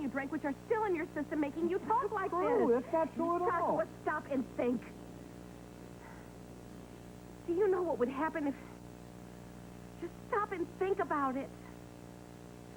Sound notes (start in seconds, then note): none